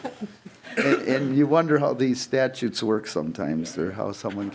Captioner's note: laughing